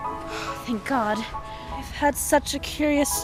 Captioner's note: sigh